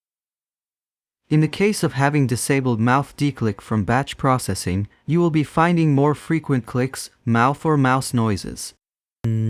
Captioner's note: mouth or mouse noises